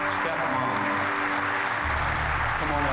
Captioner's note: applause continues